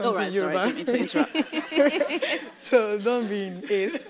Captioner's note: laughs